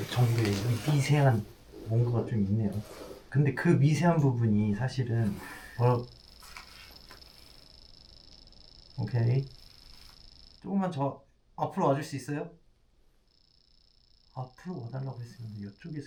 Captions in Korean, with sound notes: 정도의 미세한 뭔가가 좀 있네요 근데 그 미세한 부분이 사실은 [전자기장 반응하는 소리] 오케이 조금만 저...앞으로 와줄 수 있어요? [전자기장 반응하는 소리] 앞으로 와달라고 했으면 이쪽에서